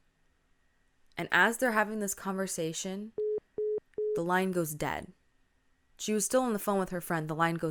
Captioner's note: three beeps sound